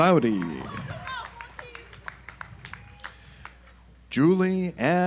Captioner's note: audience applauds